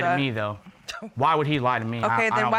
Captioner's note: scoffs